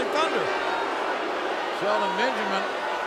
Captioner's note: crowd booing